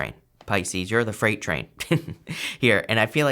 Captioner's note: laughs